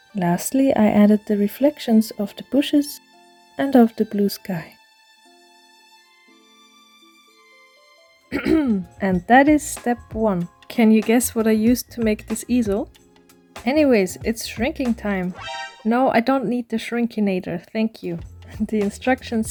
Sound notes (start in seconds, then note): 8.3 ahem